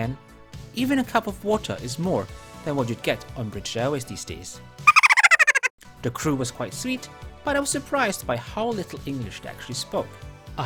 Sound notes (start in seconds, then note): 4.9 giggle